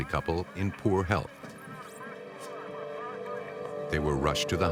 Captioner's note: radio voices